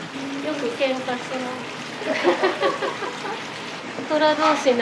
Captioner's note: laughs